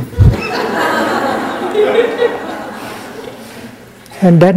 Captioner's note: laughter